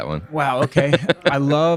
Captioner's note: laughs